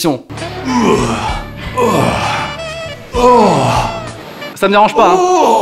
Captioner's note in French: cris virils sur fond de musique sensuelle